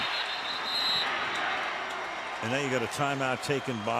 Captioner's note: whistle